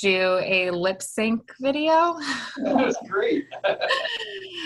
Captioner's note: laughing